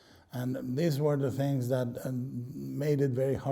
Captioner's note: none